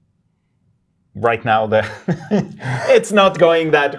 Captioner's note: laughs